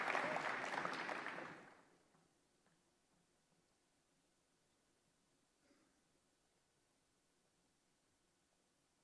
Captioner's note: applause